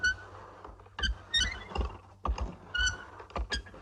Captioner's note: creaking